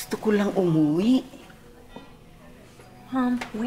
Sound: Criselda speaks Tagalog

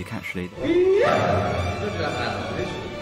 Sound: yells

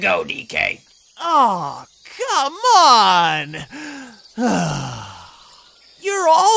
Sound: frustrated sigh

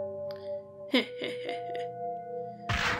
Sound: creepy laughing

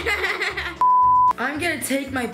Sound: laughing; beep

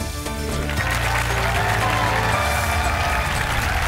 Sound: cheering, applause

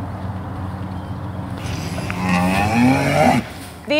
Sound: cows mooing

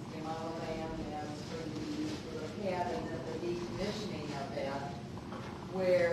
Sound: speaking off microphone

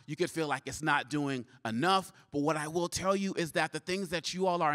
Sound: none

